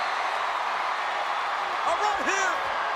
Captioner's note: spectators cheering